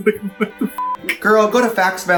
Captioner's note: beep